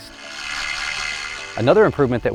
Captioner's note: tool whirring